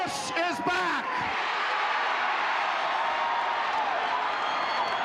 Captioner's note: audience cheering